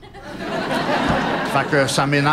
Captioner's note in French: rires